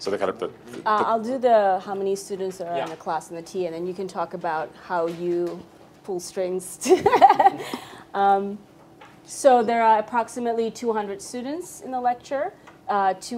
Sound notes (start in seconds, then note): 7.0 laughs